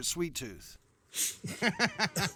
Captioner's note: blows; laughing